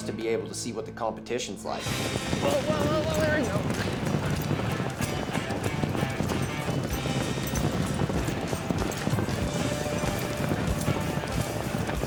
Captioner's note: hoofbeats